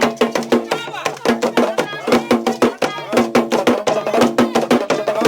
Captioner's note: speaking in foreign language